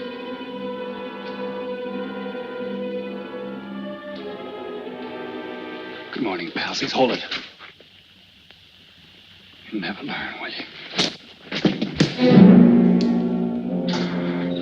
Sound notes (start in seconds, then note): 11.6 punch thuds; 12.1 suspenseful orchestral music; 14.4 engine revving